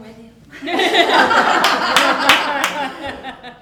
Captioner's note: laughter